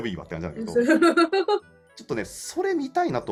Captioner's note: laugh